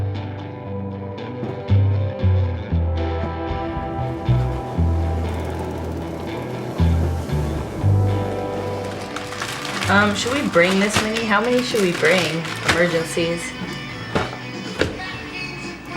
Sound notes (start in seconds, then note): 0.3 upbeat music; 6.0 wind blowing